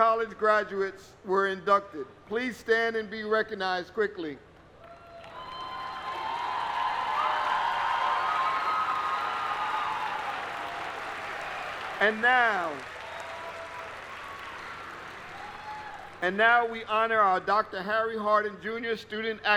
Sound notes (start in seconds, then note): 8.4 applause